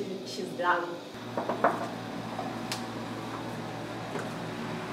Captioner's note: knocks